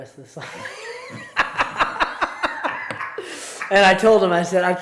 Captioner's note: both laugh